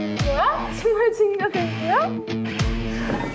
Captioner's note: back door opens